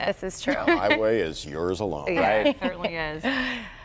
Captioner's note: laughter